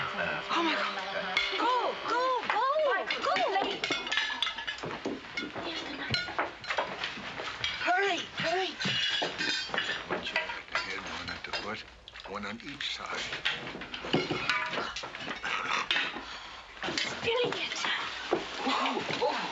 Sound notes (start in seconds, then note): 2.0 loud buzzing; 7.3 clattering; 16.7 clattering of utensils